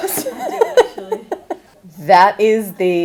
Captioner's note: laughs